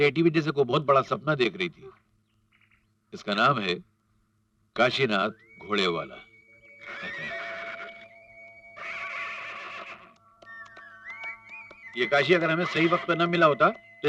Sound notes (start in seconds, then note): 6.8 horse neighing